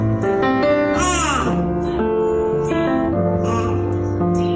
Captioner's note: child babbling